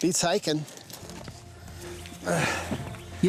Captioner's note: grunting